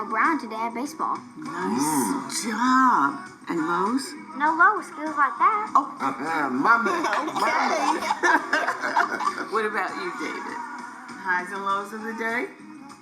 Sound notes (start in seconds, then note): 6.6 laughs; 6.8 laughter